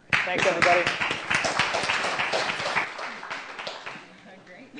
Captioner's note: applause